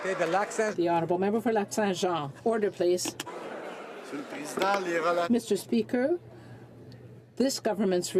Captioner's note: some applause